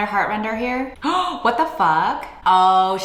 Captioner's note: gasps